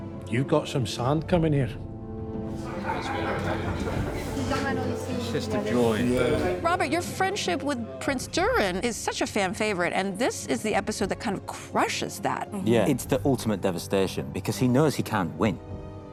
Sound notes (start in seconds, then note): 2.5 laughter